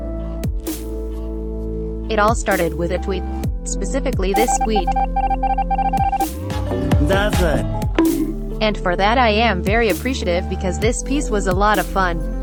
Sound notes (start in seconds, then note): 4.4 SFX: Among Us typing; 6.2 bat bonk